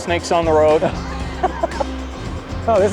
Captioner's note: laughs painfully